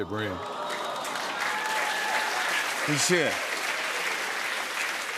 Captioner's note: cheers and applause